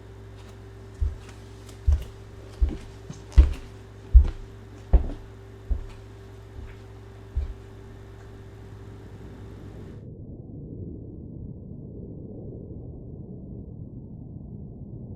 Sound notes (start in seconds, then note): 0.3 footsteps thumping; 10.4 wind whistling